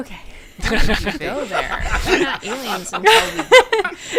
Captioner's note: laughter